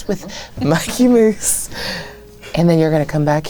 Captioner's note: laughing